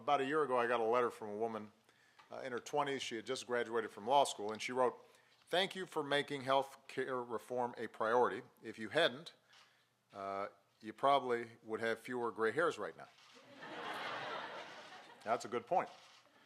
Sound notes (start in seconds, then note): 13.4 laughter